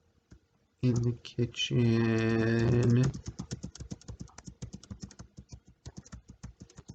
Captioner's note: tapping of the computer's keyboard